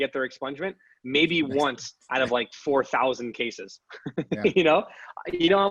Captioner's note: laughs